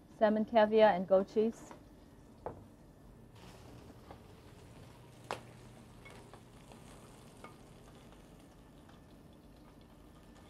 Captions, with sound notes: - Salmon caviar and goat cheese. (sizzling)